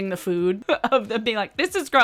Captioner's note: chuckles